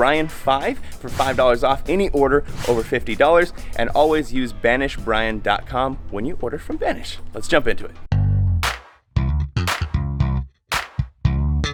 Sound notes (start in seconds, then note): 0.0 air whooshing; 2.4 air whooshing; 9.1 bass guitar music